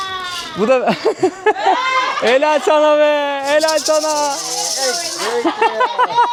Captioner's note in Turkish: kahkaha